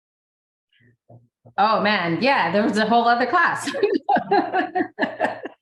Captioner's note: laughter